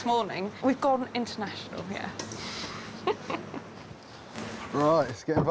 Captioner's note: laughs